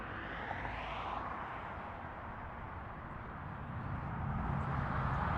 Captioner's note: aesthetic traffic noises